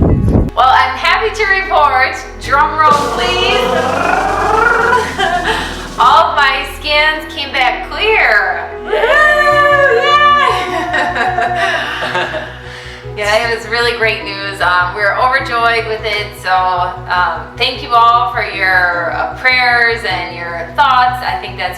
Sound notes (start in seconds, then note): 2.8 drum sound; 9.0 cheering, celebrating